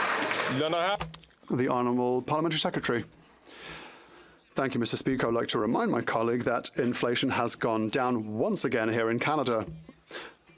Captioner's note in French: applaudissements